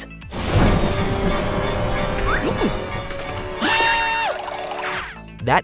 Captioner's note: Mickey screams